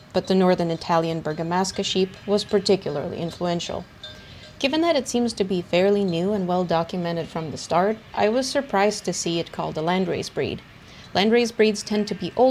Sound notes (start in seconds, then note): none